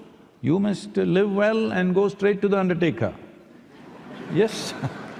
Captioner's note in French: rire / applaudissements